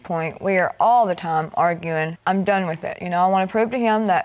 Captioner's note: none